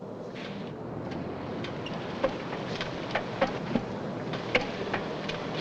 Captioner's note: machinery rumbling nearby